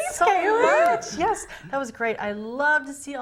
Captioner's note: laughing